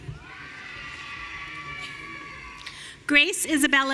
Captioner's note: audience cheering